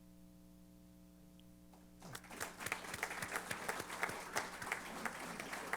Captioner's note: applause